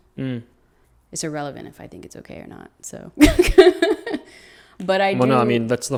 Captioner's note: laughs